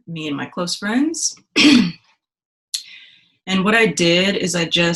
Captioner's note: coughs